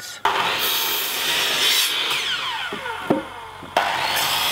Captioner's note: various tool sounds